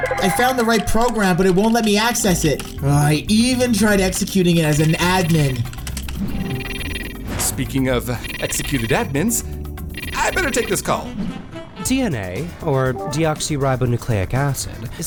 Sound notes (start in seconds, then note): 0.0 typing sounds; 5.8 phone ringing